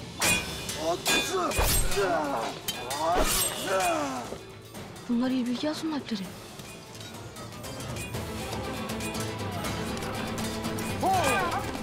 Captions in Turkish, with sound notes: Bunlar İlbilge Hatun'un Alpleri. (Dövüş sesleri)